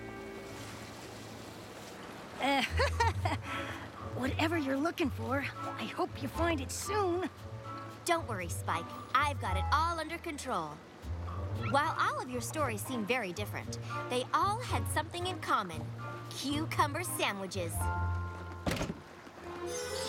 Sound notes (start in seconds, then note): 2.6 laughs nervously